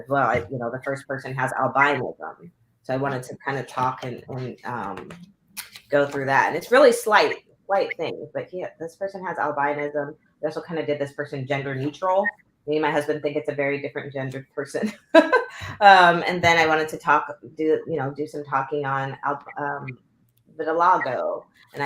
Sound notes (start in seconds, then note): 14.8 laughter